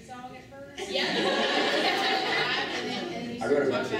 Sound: laughing

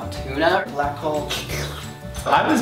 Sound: slurping sound

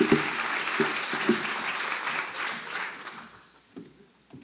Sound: applause

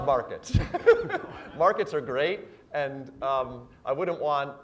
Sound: laugh

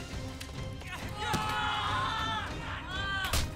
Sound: screaming

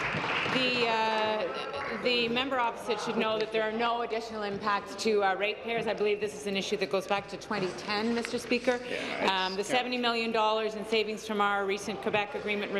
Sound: applause

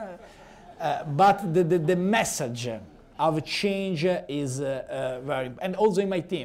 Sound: laughter

